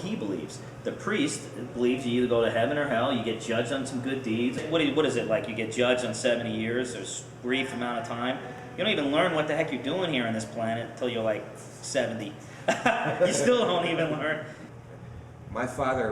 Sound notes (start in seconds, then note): 12.6 laughs; 15.5 laughs